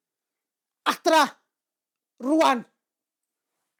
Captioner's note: in Welsh